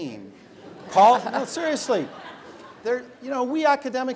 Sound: laugh

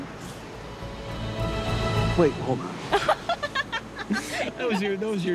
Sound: laughs

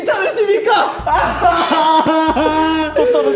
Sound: he cries

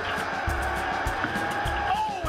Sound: cheering

